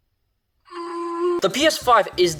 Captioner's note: strained noise